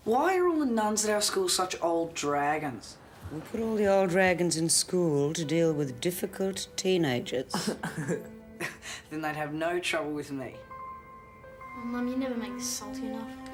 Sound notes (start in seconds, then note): 7.5 laughs